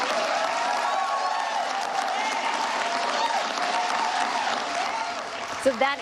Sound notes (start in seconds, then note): 0.0 applause; 4.8 cheers and applause